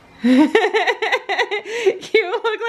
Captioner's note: laughing